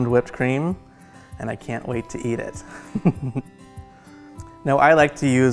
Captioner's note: chuckling